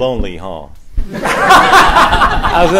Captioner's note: laughter